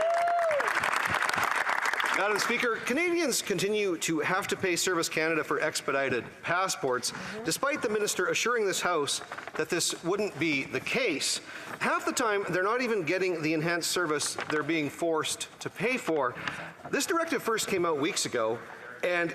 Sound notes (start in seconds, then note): 0.0 speaking French; 2.1 some Applause